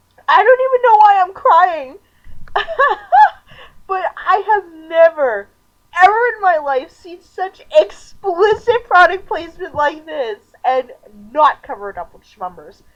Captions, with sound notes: I don't even know why I'm crying! (laughing) But I have NEVER... EVER in my LIFE seen such EXPLICIT product placement like this and NOT cover it up with Shmumbers.